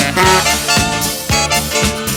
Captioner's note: car honking; upbeat music